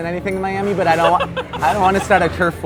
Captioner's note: laughter